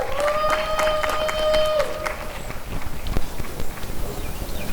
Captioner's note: applause and cheering